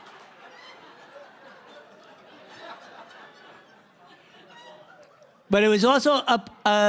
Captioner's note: laughter